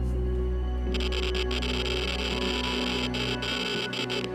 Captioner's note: meter crackling